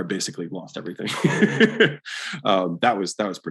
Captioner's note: Alex laughs